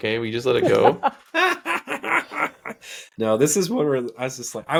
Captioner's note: laughing